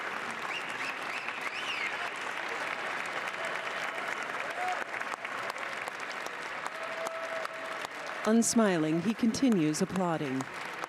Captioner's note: applause